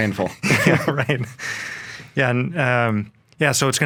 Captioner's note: both laughing